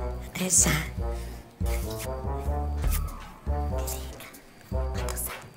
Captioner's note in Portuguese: sussurrando